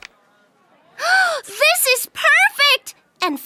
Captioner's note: gasping